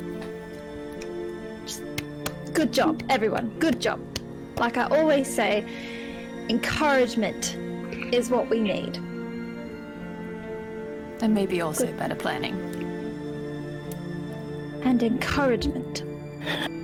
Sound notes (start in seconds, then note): 1.8 clap; 1.9 clap clap